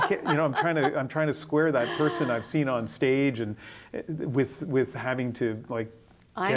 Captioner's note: laughter